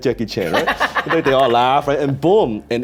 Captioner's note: laughing